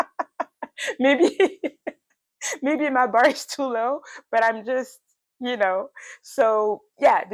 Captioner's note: laughs